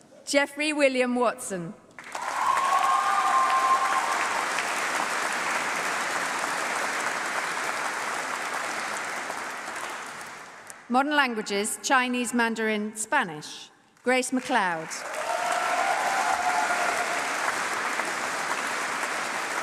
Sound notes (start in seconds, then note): 1.9 applause; 15.0 Mandarin